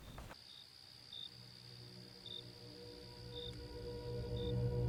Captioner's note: crickets chirping; mysterious music